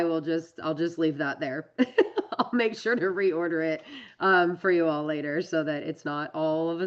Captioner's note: laughs